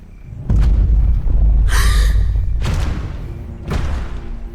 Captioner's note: sounds of giant footsteps